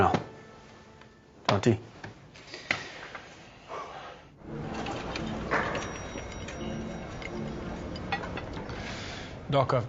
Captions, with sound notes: Come on now. Jonty? (elevator bell rings) (clattering)